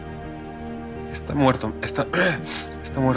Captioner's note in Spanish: Carraspea